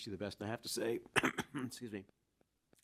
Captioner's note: clearing throat